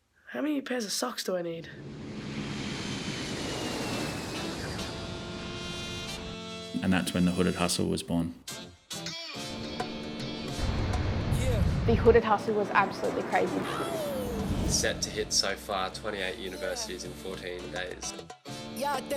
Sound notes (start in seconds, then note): 1.8 aircraft engine whirring